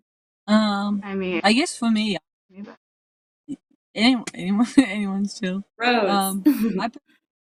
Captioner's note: confussion over who is talking - giggling